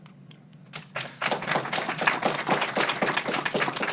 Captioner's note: applause